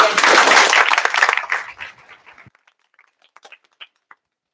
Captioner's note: applause